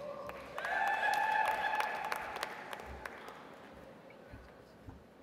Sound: audience applauds

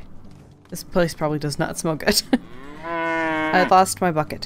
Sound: laughs

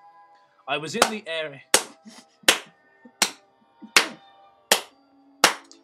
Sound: clapping

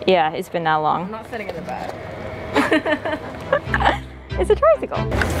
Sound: laughing

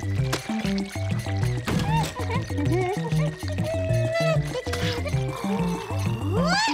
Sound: humming; grunting

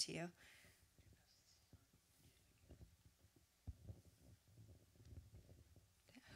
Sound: room noise, waiting for question from audience

